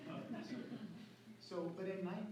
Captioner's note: laughter